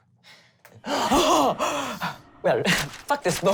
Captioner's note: gasping